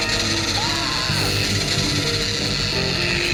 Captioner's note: screams